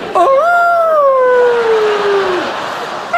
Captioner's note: Ted E howling; audience laughs